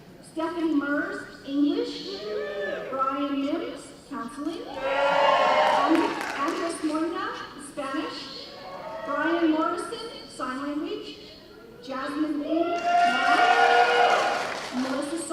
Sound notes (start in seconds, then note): 2.2 cheering; 4.7 cheers and applause; 12.6 cheers and applause